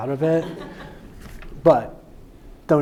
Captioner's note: audience laughing